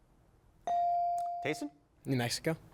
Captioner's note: bell chiming